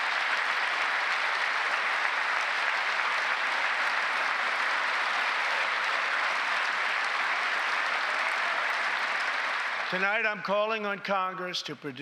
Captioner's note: applause